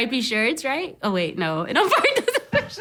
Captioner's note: laughs